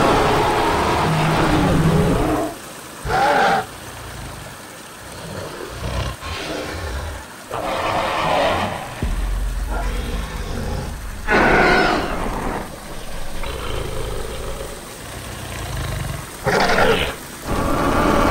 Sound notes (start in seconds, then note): 0.2 roaring Sounds; 5.1 Spinosaurus Sounds